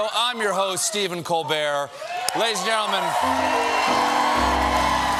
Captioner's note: applause